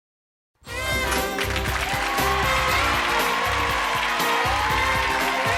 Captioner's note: lively music; cheering